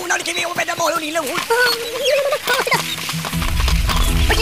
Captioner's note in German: schreit aufgeregt; ängstlich